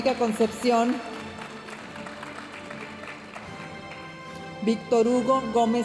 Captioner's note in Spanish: aplausos de la audiencia